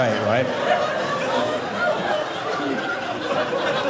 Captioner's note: audience laughing